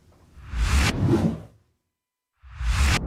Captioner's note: text whooshes